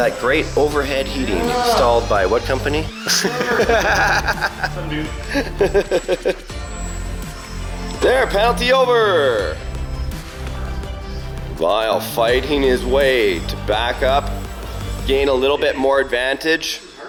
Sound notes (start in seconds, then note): 3.0 laughs